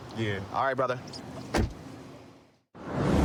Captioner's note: door shuts